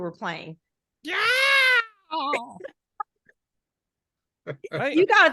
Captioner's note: growling loudly